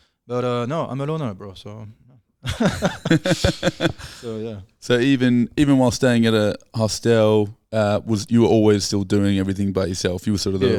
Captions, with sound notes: but no, I'm a loner, bro, so. (laughing) - So even while staying at a hostel, you were always still doing everything by yourself, you were sort of the